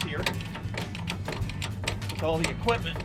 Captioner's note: equipment cranking